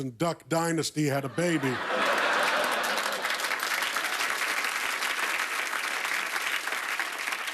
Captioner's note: laughter; applause